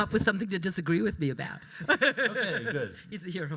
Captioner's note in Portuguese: risos